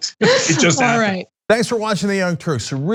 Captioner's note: laugh